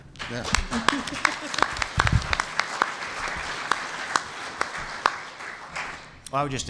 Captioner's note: applause